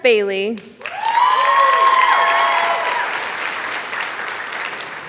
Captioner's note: applause